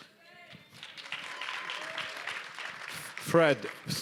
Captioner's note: applause